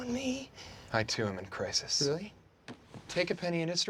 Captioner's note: whispers; normal voice